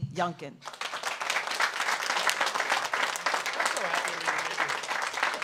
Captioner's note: audience applauds